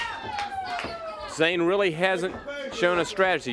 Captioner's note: crowd chatter